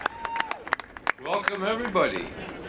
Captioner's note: cheering